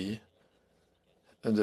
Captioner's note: speaking French